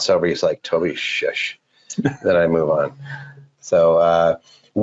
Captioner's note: laughing